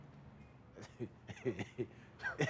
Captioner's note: laughing